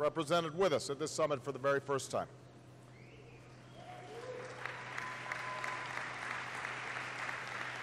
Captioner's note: applause